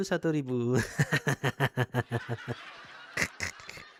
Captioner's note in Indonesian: tertawa